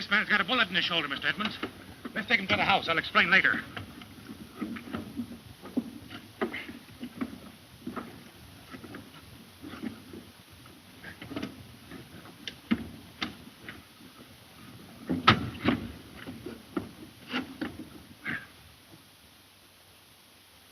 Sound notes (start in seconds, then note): 15.2 plane door slams